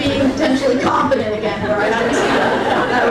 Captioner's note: crowd laughing